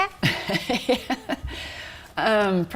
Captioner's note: laughing